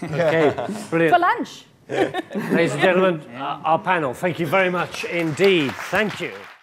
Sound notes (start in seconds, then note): 0.1 laughing; 4.9 clapping